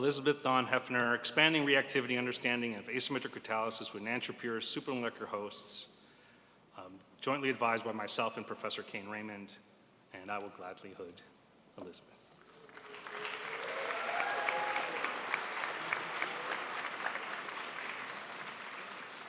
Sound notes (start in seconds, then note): 12.4 crowd applauds